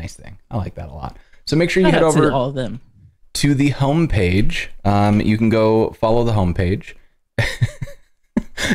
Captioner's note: laughter